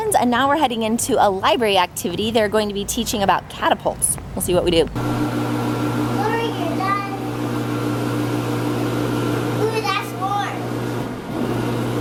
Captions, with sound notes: and now we're heading into a library activity. They're going to be teaching about catapults. We'll see what we do. (hand dryer roaring) - Laura, you're done. Ooh, that's warm.